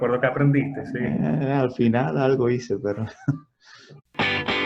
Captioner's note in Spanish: risas